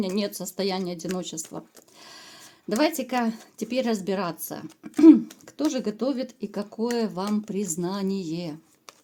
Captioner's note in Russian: откашливается